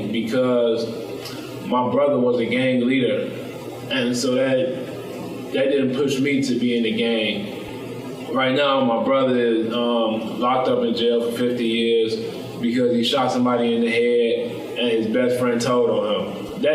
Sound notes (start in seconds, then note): none